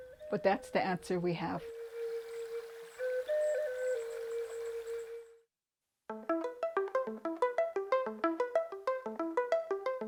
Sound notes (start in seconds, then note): 1.6 calm flute music; 2.3 water splashing; 6.2 lively music